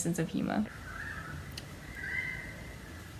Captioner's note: croooooooak